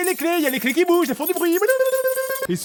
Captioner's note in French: cliquetis de clés